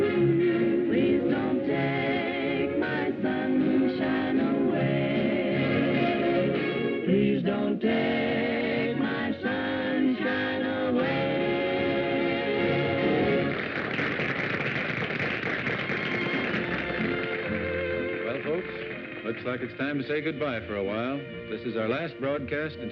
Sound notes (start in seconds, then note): 7.3 singing; 13.2 applause